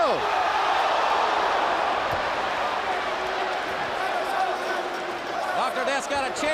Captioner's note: crowd chatter